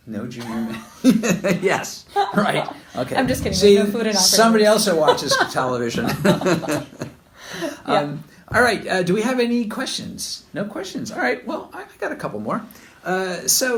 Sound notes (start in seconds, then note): 0.4 laughter; 2.9 laughs; 5.0 laughter